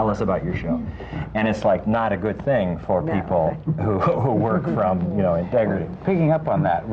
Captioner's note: laughter